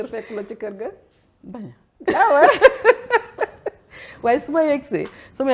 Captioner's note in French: rires